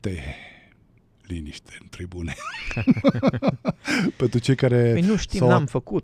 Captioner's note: laughter